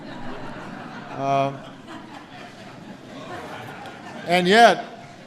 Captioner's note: laughter